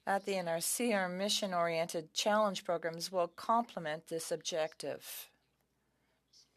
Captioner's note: speaking French